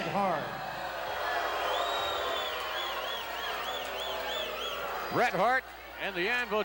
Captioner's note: applause